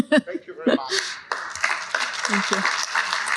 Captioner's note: applause